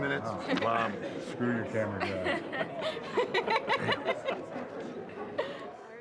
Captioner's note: receptionist laughing